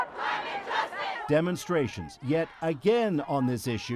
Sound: chanting

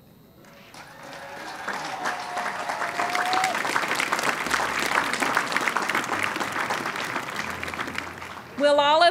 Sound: applause

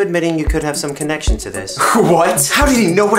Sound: laughs like a smug asswipe

